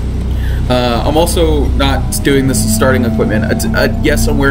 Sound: stammering

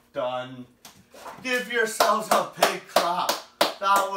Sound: claps

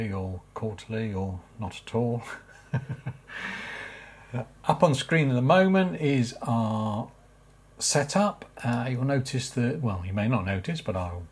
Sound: laugh

